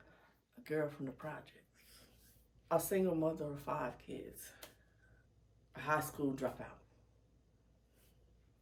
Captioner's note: clap